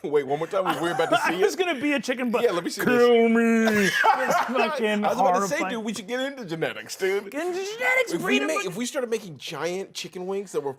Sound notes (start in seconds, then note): 0.6 laughs; 3.7 laughing